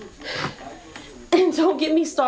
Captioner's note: sighs